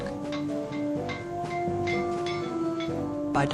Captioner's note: hammering